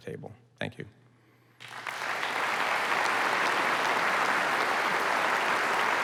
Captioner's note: applause